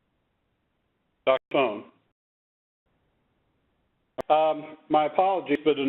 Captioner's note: mumbles